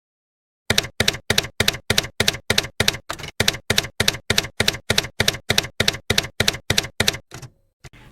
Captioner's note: typewriter keys clacking